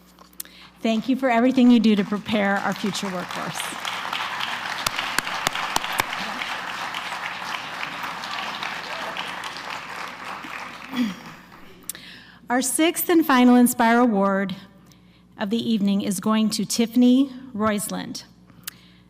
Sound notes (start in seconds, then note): 3.9 applause